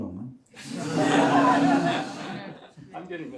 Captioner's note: laughter